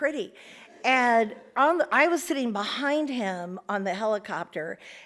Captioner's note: audience laughs